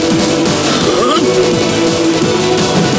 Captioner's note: breathe out